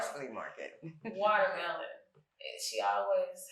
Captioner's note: chuckles